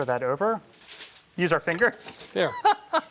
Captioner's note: laughs